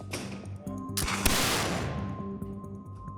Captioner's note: gunshot